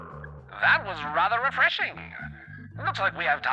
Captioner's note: echoing, fading out